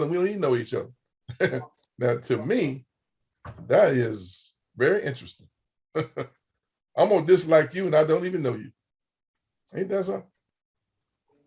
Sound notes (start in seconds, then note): 1.3 laughs; 5.9 chuckles